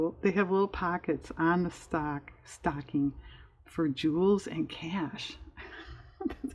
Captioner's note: laughs